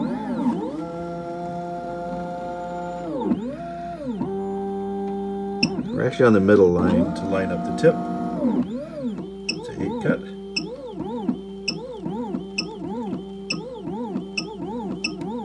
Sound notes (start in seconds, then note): 0.0 machine beeping; 0.0 machine revving; 3.5 machine whizzing and beeping; 8.5 machine whizzing and beeping; 11.3 machine whizzing and beeping